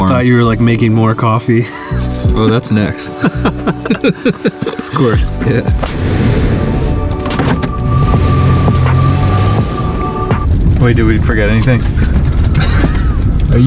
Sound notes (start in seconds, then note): 3.0 laughs; 3.0 both laughing; 6.5 car humming; 8.5 engine humming; 8.5 tires scrunching; 12.5 laughs